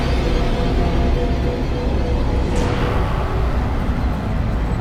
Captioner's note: demonic voice murmuring